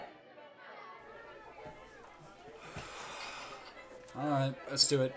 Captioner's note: Pidgy sighs heavily